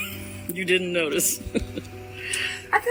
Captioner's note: laughs